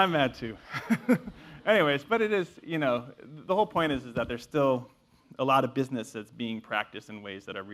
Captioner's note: laugh